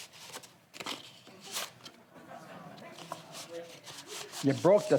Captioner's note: audience laughs